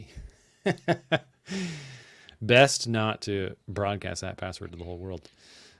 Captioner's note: laughs